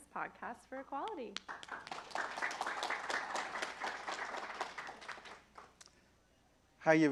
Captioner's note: applause